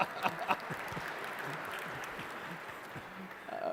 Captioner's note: laughter